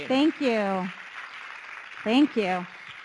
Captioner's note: audience clapping